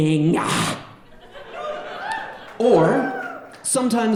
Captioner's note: audience laughing